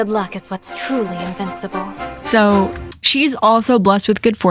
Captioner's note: laughs